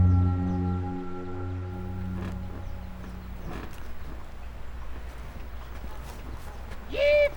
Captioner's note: car suspension squeaking